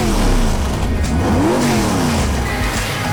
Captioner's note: more vroom; vroom